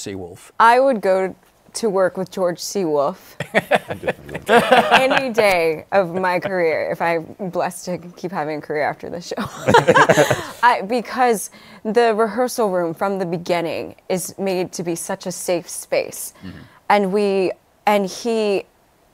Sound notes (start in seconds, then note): 3.4 laughter; 9.4 laughter